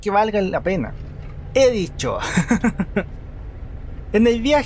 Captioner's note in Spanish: risas